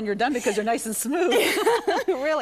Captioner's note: laugh